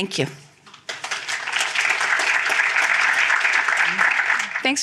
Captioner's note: applause